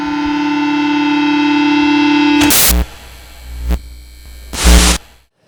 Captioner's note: buzzer